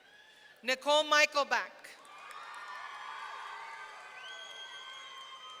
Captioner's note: audience cheering